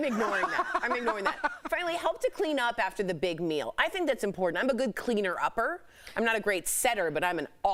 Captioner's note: laughter